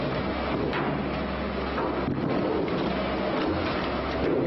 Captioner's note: thudding and pounding